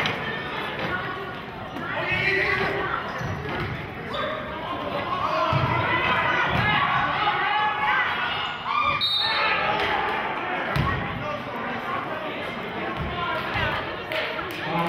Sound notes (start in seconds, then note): 5.4 yelling; 8.9 whistling